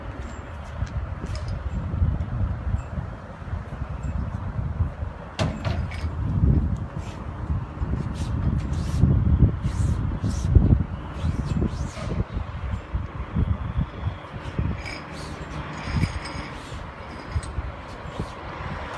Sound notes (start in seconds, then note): 5.3 metal clanging